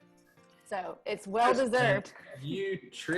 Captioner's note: giggles; laughing